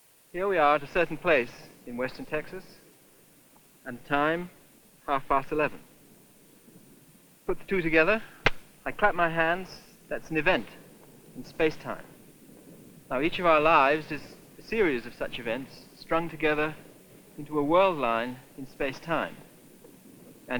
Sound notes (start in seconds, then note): 8.3 claps